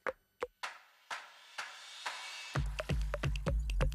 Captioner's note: hand claps; upbeat music